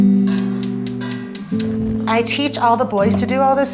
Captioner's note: stove starter clicking